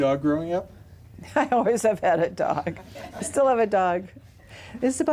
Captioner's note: laughs